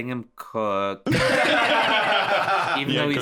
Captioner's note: all laughing